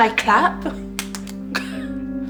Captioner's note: claps; laughs